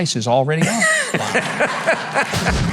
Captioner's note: audience laughing